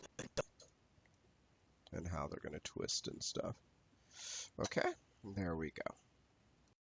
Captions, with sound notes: (audio skipping) And how they're going to twist and stuff. Okay, there we go.